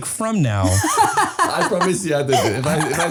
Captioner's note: laughing